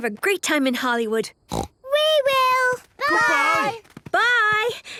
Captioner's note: snort